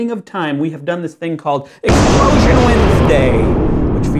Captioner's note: blasting